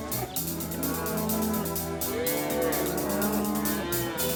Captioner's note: mooing